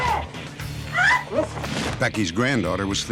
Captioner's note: scream